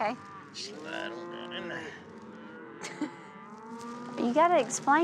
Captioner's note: mooing